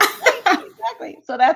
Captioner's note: laughter